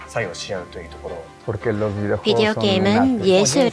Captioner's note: speaking spanish; non-english speech